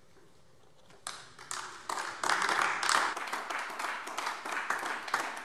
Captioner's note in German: Beifall AfD